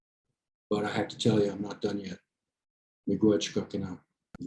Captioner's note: speaks in foreign language